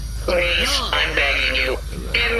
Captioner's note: still in the deeper BAD_E voice